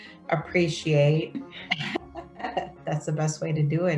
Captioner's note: laughs appreciatively